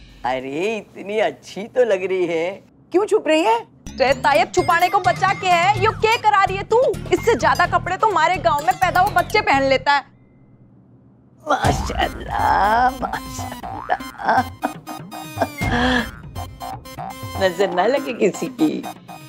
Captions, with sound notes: You look so nice. Why are you hiding? What's left to hide now? What are you making me do? Back at my village, babies wear more clothes than this. God has willed this to happen. [chuckling] May the evil eye stay away from you.